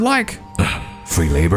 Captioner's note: gasp